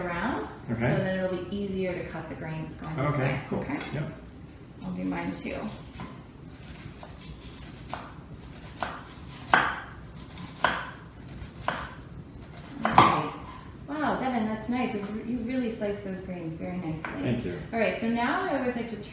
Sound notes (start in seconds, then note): 5.7 chopping noises